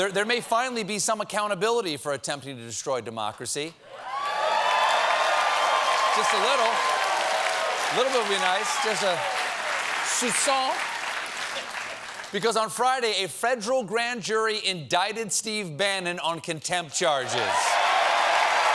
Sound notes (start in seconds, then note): 6.0 cheers and applause